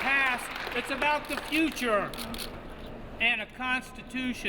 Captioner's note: cheers